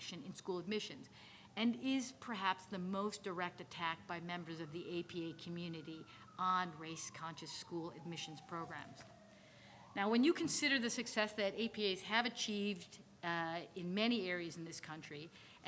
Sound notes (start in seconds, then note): none